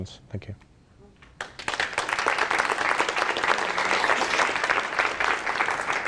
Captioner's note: applause